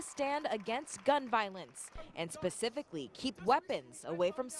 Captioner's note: applause